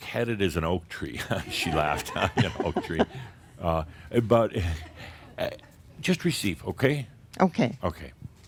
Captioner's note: more chuckles